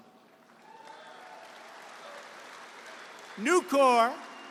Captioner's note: applause